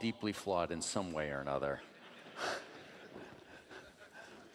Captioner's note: laughing